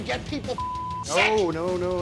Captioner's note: beep